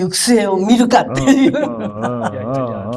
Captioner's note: laughs